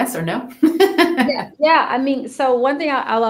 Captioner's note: laughs